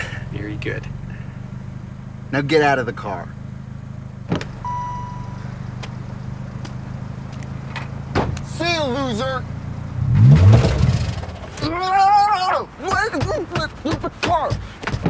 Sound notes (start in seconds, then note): 8.0 car door slams; 10.6 kills engine